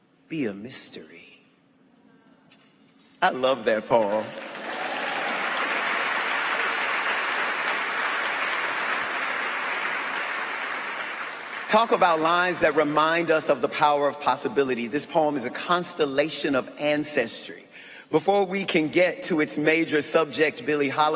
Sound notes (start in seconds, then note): 14.3 applause